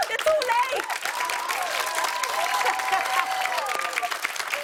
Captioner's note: cheers and applause